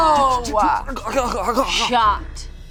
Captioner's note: vocalizes